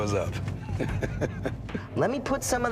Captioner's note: laughs